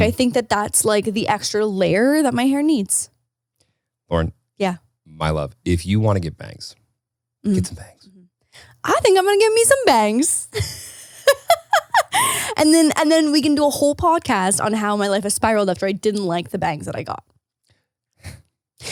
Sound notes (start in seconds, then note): 10.4 laughs